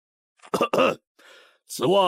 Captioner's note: cough cough